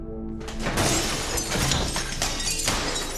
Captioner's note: glass smashing